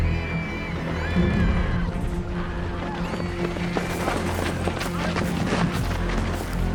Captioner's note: dark music; people shouting